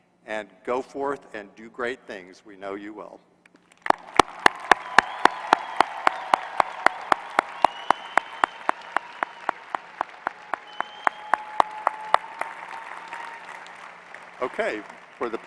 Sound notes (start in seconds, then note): 3.6 applause